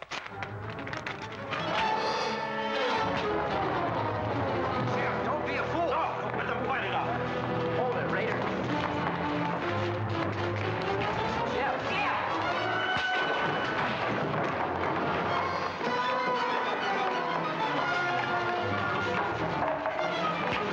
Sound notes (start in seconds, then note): 0.1 paper tearing; 0.1 suspenseful music; 1.8 smack; 1.8 suspenseful music; 9.1 suspenseful music; 12.1 suspenseful music; 12.9 thud; 15.5 sounds of scuffling; 15.5 suspenseful music